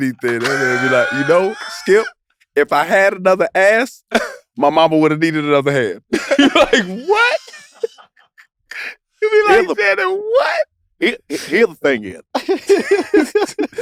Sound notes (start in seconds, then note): 6.1 group laughs; 6.1 laugh; 12.3 laugh